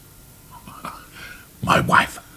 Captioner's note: Rumpole chuckles